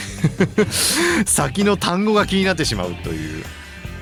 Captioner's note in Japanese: 笑い